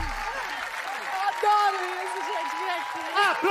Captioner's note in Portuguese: aplausos